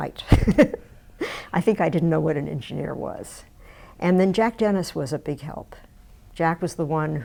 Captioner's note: laughs